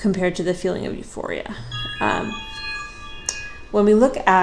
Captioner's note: ringing